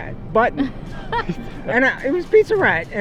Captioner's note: laughter